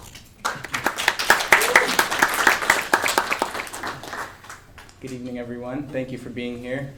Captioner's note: applause